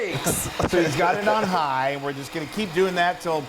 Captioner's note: laugh